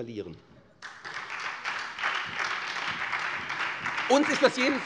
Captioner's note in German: Beifall SPD und Freie Demokraten